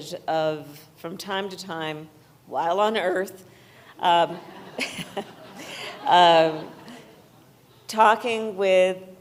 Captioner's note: laughter